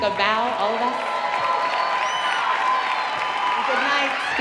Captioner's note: audience cheering